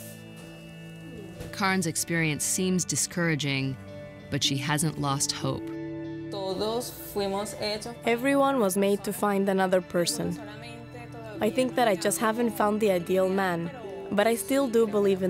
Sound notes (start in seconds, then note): 5.0 speaking spanish